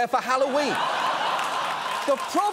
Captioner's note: audience laughing